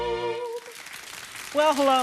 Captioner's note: audience applauding